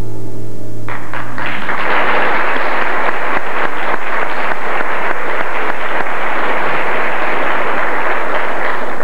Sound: applause

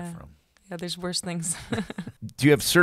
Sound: laughs

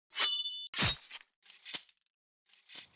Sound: sword slashing

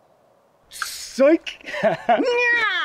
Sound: laughter

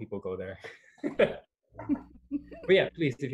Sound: laughter

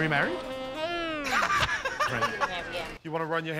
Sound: laughter

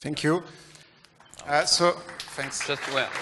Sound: applause

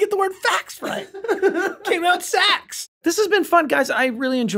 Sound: laughing

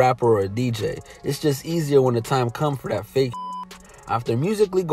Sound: beep

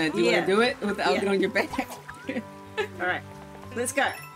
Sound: laughs

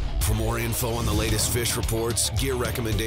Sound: voiceover

